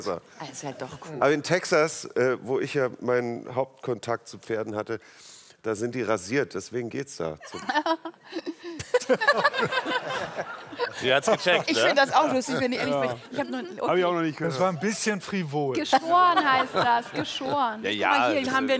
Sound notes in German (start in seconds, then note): 8.3 Lachen